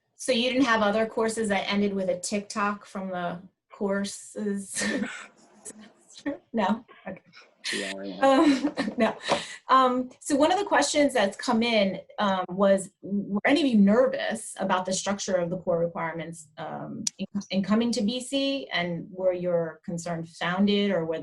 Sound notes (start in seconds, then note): 4.9 laughter drowns out speaker